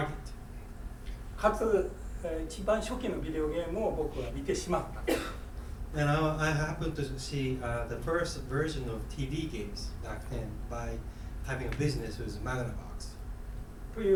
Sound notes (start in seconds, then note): 1.5 speaking in foreign language; 4.9 coughing